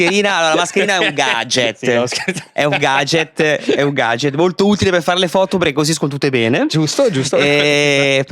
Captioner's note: laugh